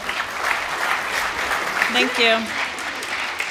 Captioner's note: applause